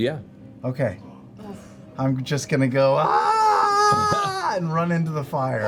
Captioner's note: yells